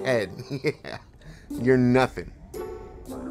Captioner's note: laughs